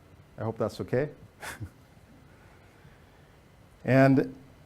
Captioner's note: chuckles